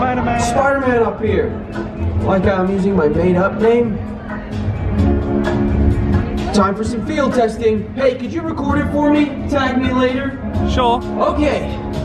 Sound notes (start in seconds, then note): 3.4 mutters